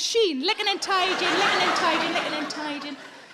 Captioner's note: audience laughing